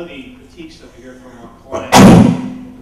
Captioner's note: sneeze